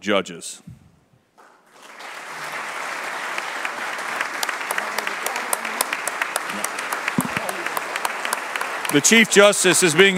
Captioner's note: applause